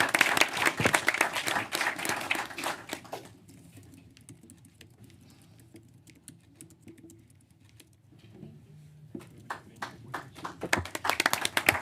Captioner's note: applause